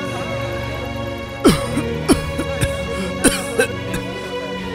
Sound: coughs

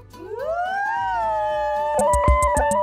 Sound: both exclaiming; upbeat drum music plays

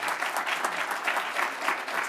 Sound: applause

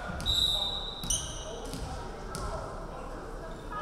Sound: referee whistling

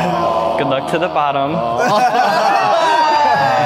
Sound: disappointed groans; sighs

